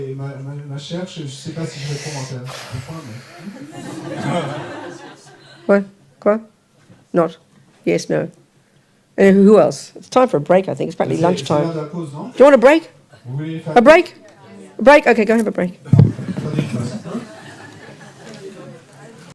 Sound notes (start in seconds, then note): 0.1 speaking in French; 3.5 laughter